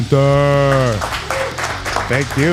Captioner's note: crew cheers